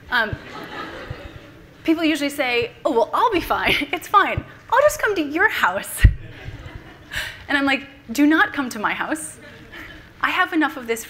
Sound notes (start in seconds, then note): 0.2 laughter from the audience; 6.2 everyone laughing